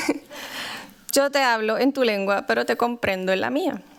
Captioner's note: non-english speech